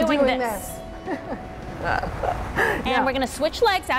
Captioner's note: laughing